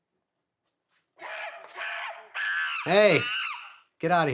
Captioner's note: monkey screeching